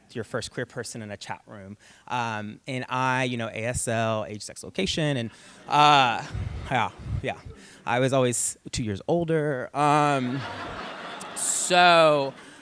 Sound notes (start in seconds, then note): 10.1 laughter